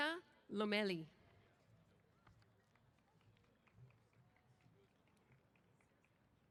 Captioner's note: applause